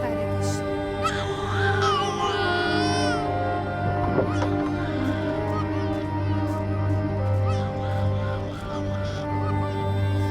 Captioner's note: baby crying